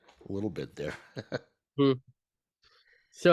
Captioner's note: chuckles